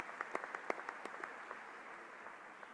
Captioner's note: applause